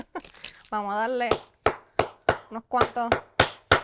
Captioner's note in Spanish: golpes